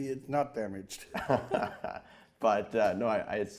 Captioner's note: interviewer laughing